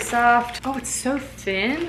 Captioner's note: package opening